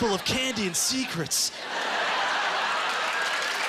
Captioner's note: applause